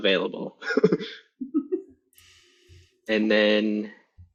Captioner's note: laughter